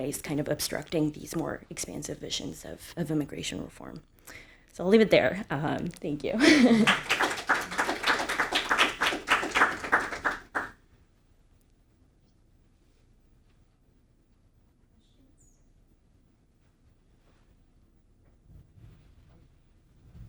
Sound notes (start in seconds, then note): 6.3 chuckles; 6.3 audience applauding